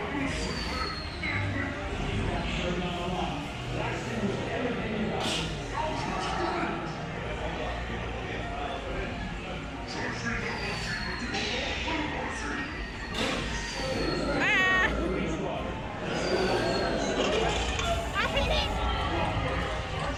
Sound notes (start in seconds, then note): 0.2 Zurg groans and speaks French; 7.7 Zurg speaks French